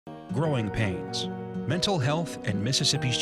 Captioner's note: voiceover